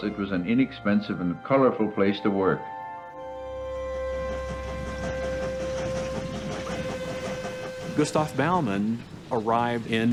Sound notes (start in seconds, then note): 7.9 train chugging; 7.9 whistle blows